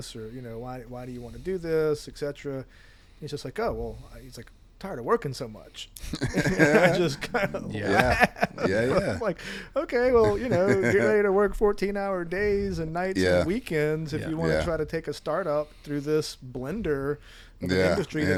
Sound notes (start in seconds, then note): 6.1 group laughs